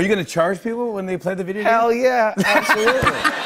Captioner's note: laughter